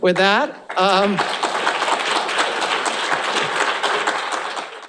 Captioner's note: applause